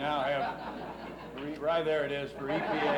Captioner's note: laughs